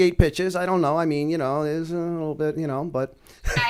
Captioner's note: chuckle